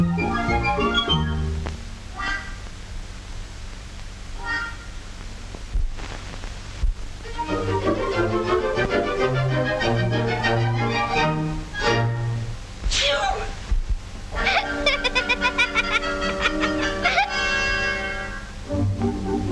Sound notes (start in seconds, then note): 0.0 gentle classical music; 7.2 gentle classical music; 13.0 stepmother sneezing; 14.3 gnome laughing